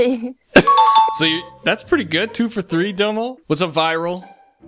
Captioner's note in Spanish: se ríe